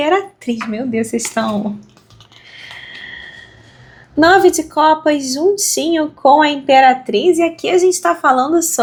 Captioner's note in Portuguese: suspirando